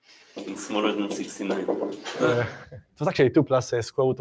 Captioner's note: laughter